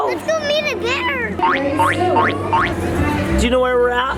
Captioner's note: boinking sound